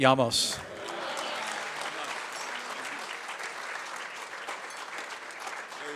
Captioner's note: applause